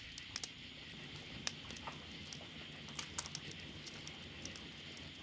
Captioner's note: fire crackling